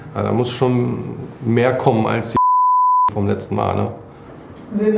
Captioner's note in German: Piepsen